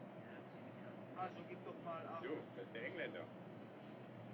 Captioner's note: crewmen Chattering In German